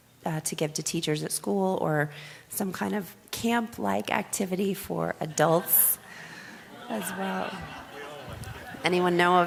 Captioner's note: laughter